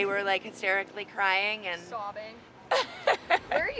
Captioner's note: laughs